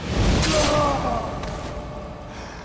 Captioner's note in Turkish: İnilti sesi